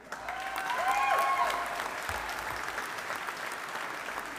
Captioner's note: audience applauding